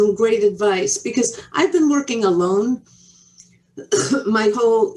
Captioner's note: coughs